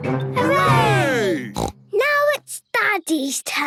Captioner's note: snort